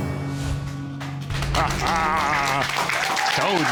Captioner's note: applause